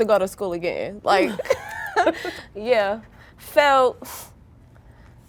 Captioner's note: girls laughing